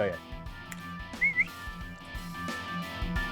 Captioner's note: whistling